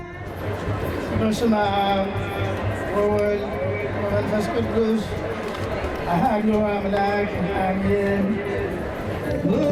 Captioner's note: foreign Language